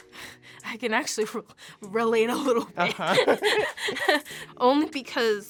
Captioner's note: laughs